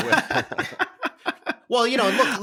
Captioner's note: laughter